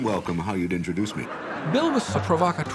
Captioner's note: audience laughing